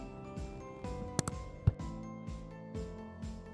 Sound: click

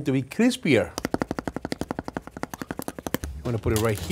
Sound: fingers tapping tortilla

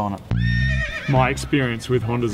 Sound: horse neighs

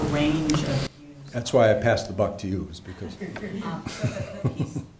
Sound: laughing

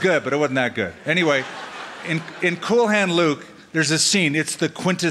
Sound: laughter

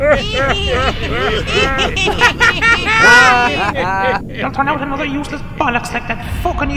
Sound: laughing

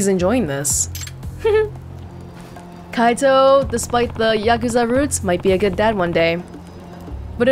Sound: chuckles

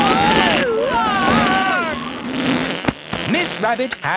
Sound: screaming; crowd gasps

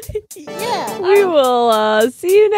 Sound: upbeat music; laughs

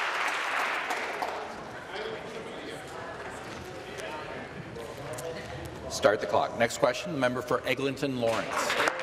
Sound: applause

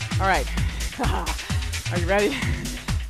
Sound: laughs

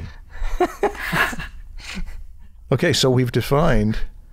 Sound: chuckle

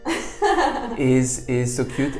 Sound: laughs

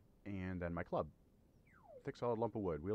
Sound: laser sound

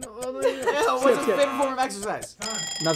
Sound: buzzer

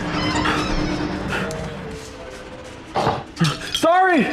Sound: the group runs through the small store, something falls off a shelf and smashes

